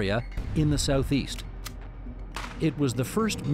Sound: gunshot firing

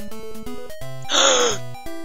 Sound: g a s p

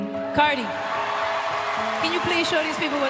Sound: audience cheers

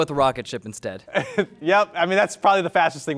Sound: laughs

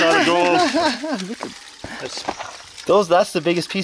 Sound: laughing

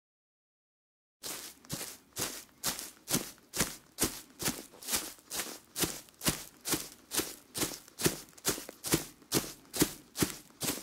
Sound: sound of walking

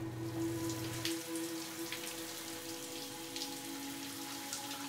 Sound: water running

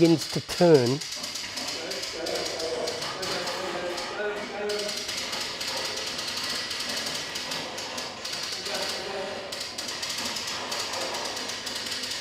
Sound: clicking sounds

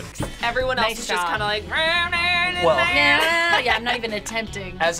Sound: vocalizes

